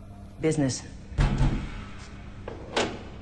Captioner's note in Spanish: Toques en la puerta